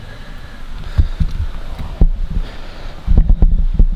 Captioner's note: heavy Breathing